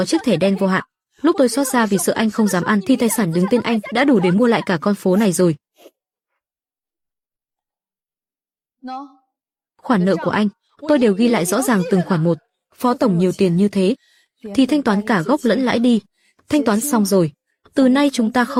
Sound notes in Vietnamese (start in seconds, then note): 7.2 khịt mũi